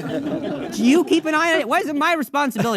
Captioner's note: audience laughing